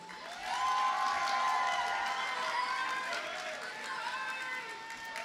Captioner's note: audience cheers and applauds